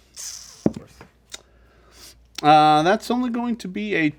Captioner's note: dice thud